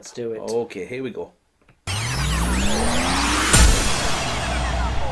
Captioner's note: tape rewinding